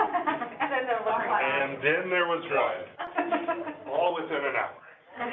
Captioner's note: indistinct conversation